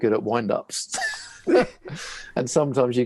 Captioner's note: laughing